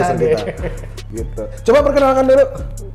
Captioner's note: laughs